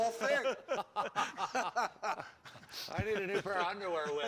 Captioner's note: laughing